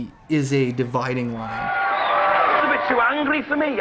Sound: audience cheering

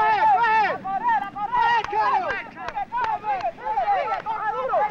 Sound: speaking spanish

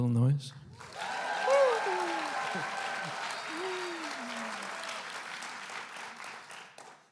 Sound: applause and cheering

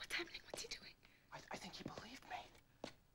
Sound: <i> whispering</i>

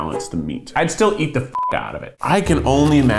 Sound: beeps

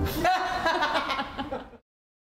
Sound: laughter from behind camera

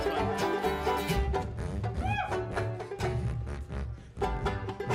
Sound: deep jug vibrating

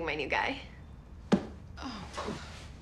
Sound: sighs

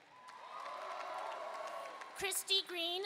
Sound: audience cheering and applauding

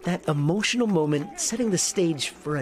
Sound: applause

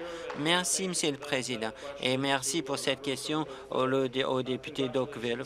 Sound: applause

